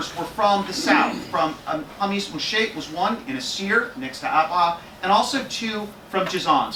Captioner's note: Arabic